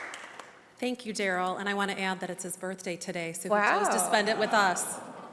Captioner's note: applause